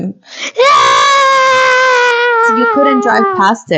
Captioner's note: screaming